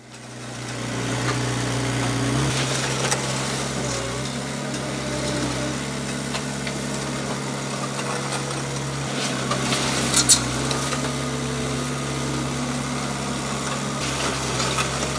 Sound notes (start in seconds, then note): 1.1 telehandler engine revving